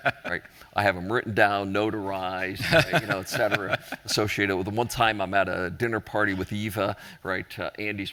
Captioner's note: laughter